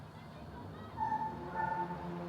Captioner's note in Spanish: ladridos